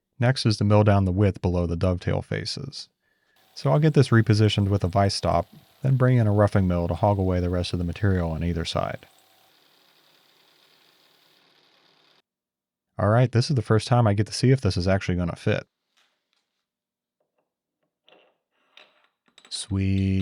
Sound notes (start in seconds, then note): 9.6 machine whirring